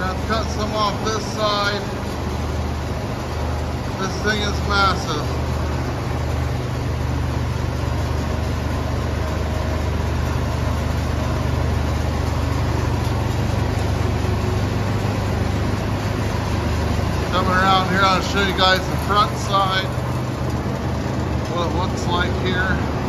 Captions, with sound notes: Going to have to cut some off this side. This thing is massive. (mill engine noise in background) coming around here I'll show you guys the front side what looks like here